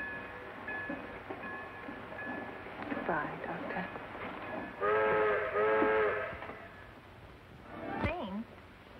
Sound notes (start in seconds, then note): 4.8 train whistle blows